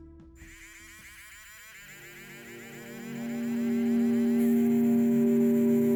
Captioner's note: mechanical tool motor